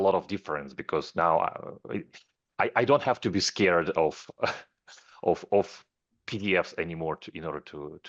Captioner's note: chuckles